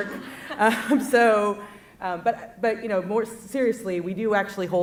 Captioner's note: laughs